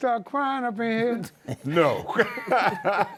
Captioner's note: laughter